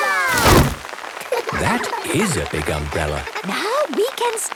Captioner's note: laughter